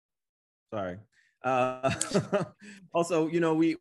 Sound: laughs

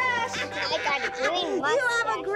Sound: laughing

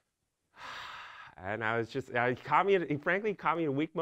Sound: sigh

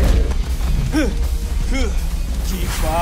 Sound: angry grunt

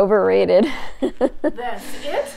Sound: laughs

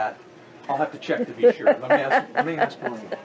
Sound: laughs loudly

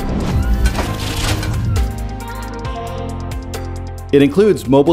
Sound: upbeat music; machinery whirring

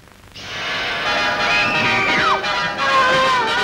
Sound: screaming

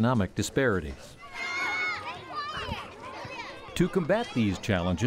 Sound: noise of kids playing on playgrounds

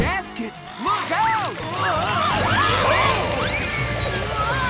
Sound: screaming

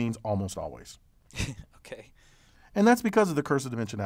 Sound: laugh

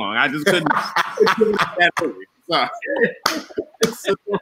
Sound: all laughing

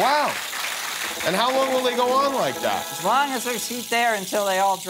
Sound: cheers and applause

